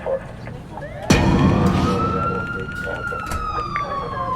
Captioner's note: police sirens